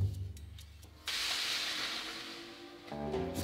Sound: baking sheet sliding

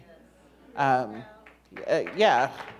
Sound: applause

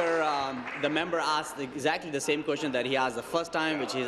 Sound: applause

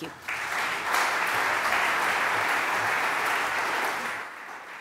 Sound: applause

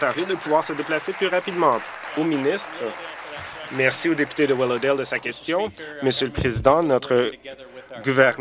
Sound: applause

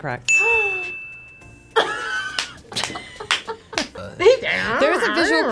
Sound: bell dinging; laughing; clapping

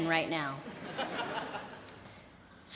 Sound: laughter

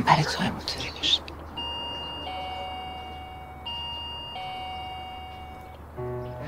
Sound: doorbell ringing

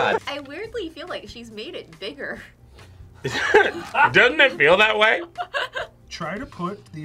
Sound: laughs

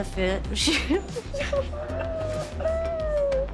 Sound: laughs

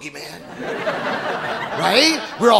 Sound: audience laughing

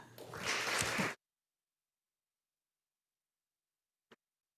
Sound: audience applauding

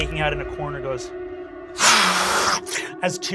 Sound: hisses

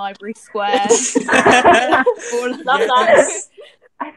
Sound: laughter

